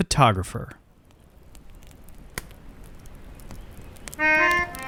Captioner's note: fire crackles